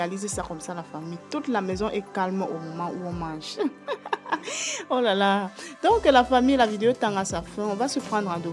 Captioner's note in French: rires